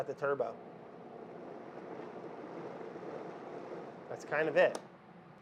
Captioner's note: blender whirs softly